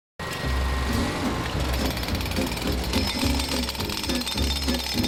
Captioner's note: machinery and jackhammering